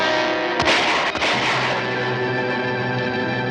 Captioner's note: gun shots ring out!